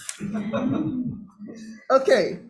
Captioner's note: members and public laugh